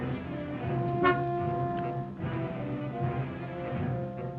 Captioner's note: car horn honks